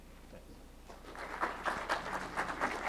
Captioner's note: applause